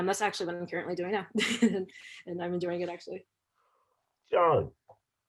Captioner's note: laughter